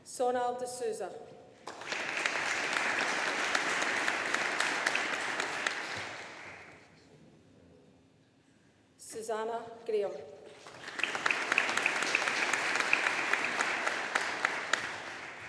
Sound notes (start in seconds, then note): 1.6 audience applauding; 10.6 audience applauding